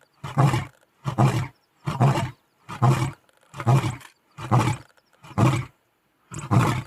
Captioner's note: howls